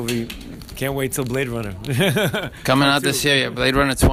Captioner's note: laughs